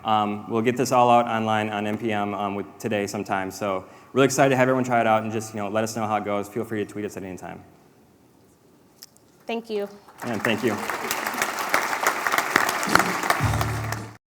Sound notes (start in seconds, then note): 10.0 applause